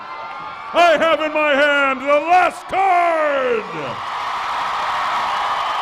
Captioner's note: cheers and applause